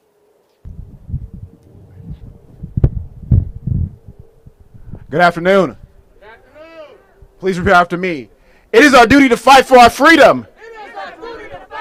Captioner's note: cheering